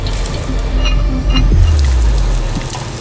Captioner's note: metal clanging; foliage rustling